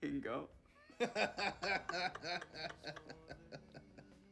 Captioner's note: laughing